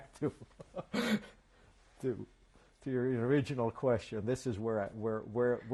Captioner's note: laughs